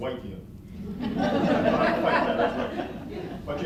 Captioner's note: laughter